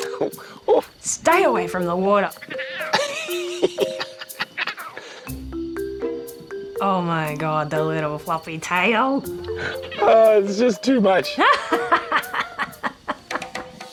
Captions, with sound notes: Oh, stay away from the water. (LAUGHS) Oh, my God. That little fluffy tail. Ah, it's just too much. (LAUGHS)